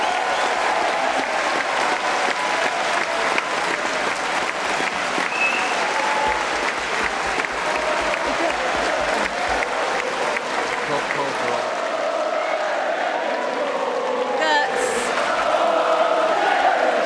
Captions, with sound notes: OK that is clearly carried. (APPLAUSE) (Cheering & Applause).